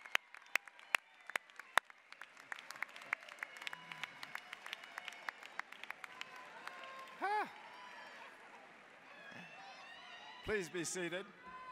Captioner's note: applause, cheering continues